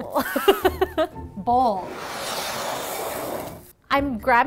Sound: laughing; bowl sliding

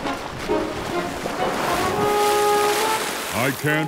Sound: water splashing

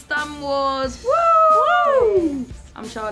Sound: cheers

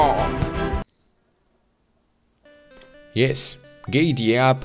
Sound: crickets chirping

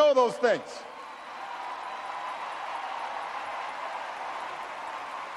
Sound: audience cheers and applauds

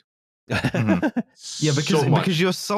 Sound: laughs

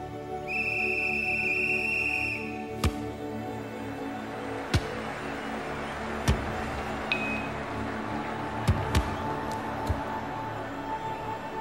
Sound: referee whistle. Football sounds. Crowd cheering

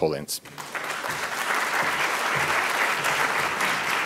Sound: audience applauding

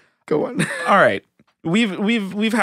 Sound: laughing

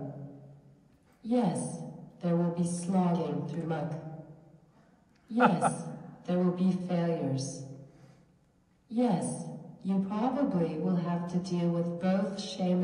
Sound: laughs

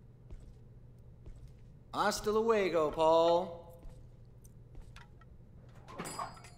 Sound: Spanish

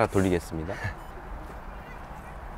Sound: beep

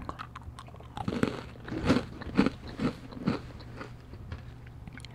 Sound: munch munch munch

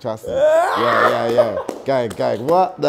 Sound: laughing

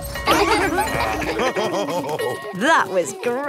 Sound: children laughing; daddy pig snorts; daddy pig laughing

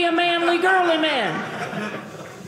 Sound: audience laughing

